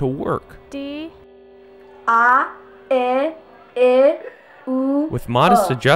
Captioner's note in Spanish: personas pronunciando sonidos de una silaba